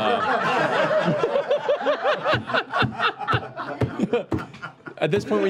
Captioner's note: laughter